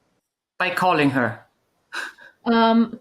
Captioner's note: chuckles